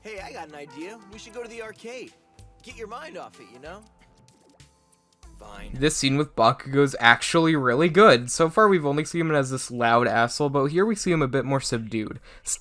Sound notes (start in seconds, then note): none